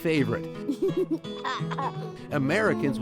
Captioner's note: laughs